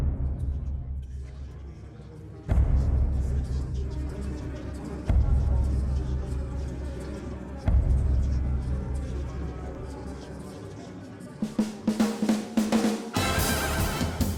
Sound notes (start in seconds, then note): 0.7 voices echoing; 10.7 upbeat music